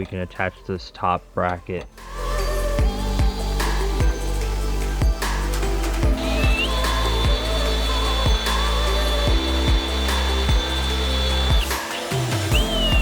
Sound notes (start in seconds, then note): 1.9 upbeat music; 5.0 drill whirring